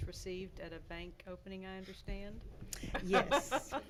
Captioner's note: laughing